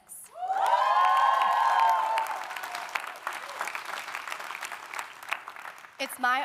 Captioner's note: audience cheering; audience applauding